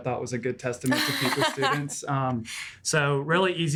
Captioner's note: laughing